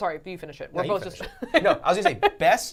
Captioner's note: laughing